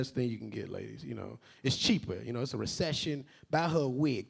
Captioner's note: none